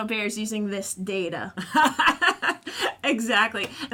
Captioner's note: laughter